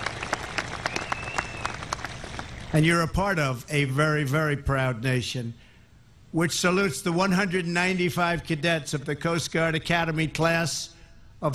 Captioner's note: applause